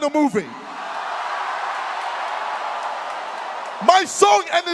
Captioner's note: audience cheers